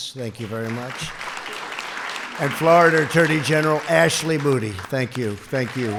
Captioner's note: applause